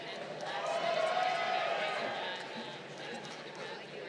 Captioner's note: crowd cheering